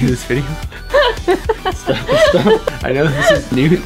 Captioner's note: laughs